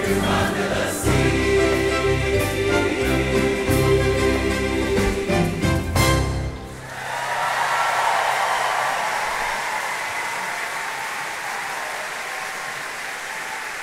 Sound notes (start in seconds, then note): 3.4 cheerful orchestral music; 6.8 audience applauding